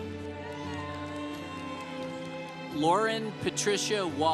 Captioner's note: congregation cheering